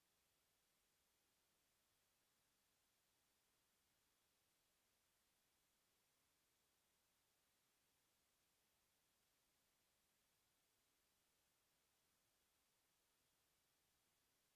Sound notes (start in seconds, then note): none